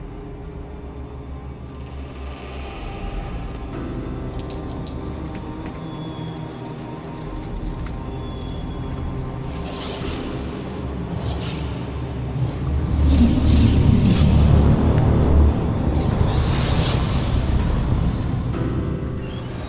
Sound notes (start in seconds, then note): 2.2 door creaking; 12.3 wind rushing; 13.2 ominous orchestral music